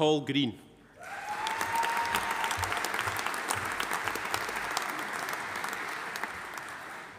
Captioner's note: audience cheering; audience applauding